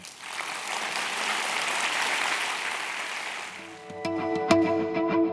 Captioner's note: applause